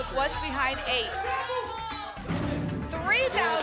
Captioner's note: cheering